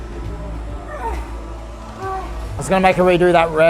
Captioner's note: grunts